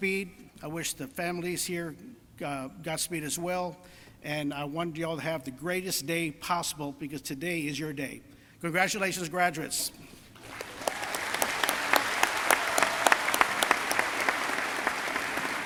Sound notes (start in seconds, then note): 10.4 crowd applauding